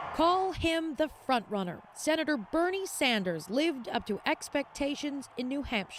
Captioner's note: cheers and Applause